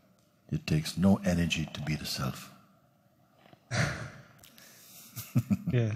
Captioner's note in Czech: smích